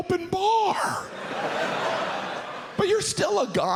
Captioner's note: audience laughs